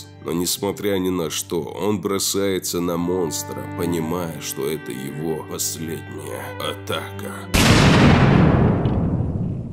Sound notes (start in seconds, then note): 7.5 explosion